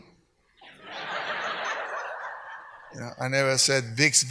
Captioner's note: speaks Spanish; audience laughs